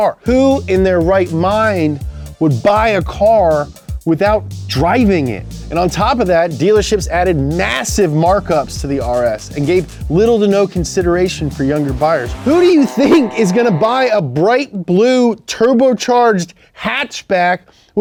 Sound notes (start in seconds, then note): 12.3 car revs loudly